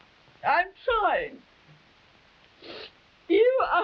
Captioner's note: crying